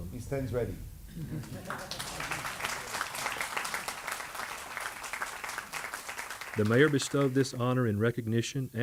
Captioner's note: applause